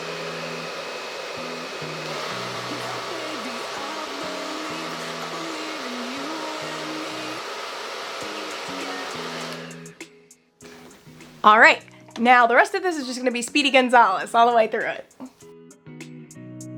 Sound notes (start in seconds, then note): 2.1 hair dryer roar increases; 9.6 dryer stops; 15.2 soft guitar music